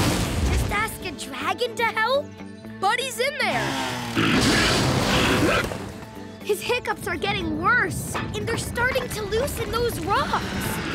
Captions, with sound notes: Ask a dragon to help? Buddy's in there. [hiccuping] His hiccups are getting worse, and they're starting to loosen those rocks.